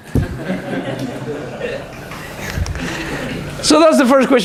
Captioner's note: laughter